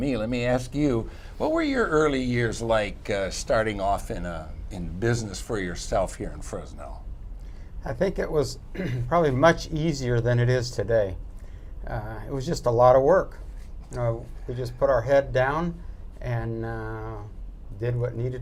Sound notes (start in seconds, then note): 8.7 clears throat